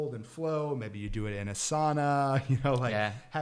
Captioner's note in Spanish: chuckles